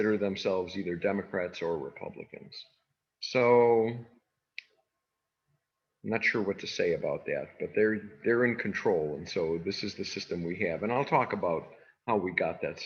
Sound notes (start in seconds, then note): none